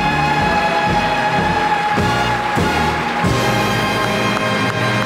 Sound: audience applauds

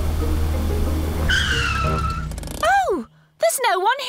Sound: tires screech

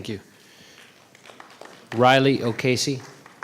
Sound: applause

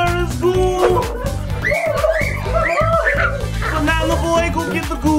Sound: screaming; rainbow ghosts growling

